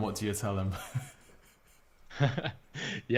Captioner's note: laughing